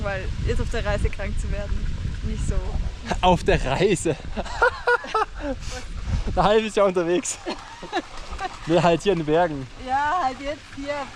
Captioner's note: laughs